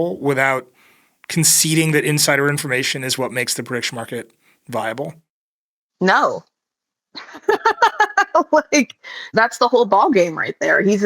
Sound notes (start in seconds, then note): 7.2 laughs